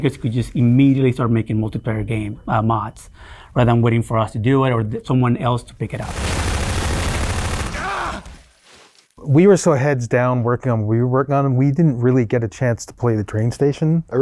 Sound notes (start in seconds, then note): 6.0 loud automatic gunfire; 7.7 character yells in pain